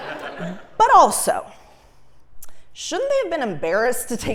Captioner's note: laugh